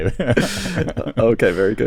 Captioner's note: laughter